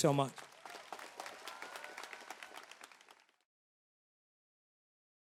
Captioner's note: crowd applauding